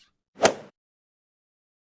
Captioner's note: swoosh